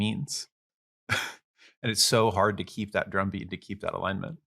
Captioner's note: laughs